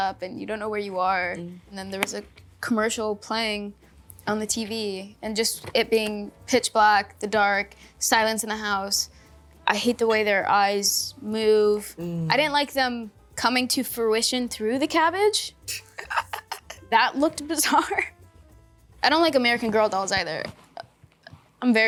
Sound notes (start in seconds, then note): 15.7 Catherine chuckles; 18.3 chuckles